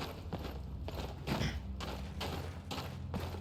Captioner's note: clears throat